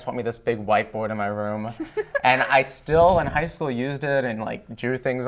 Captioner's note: laughter